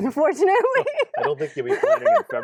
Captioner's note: laughs